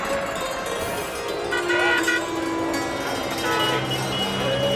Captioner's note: chiming music; traffic noise